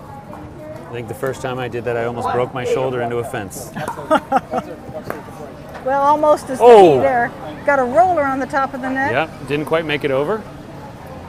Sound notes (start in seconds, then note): 3.9 laughs